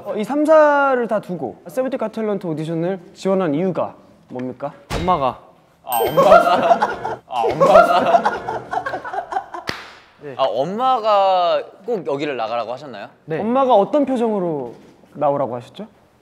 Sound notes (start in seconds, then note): 6.7 cracking up